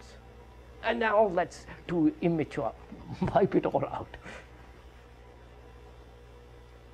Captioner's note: laughs